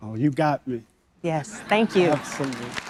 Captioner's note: audience members laughing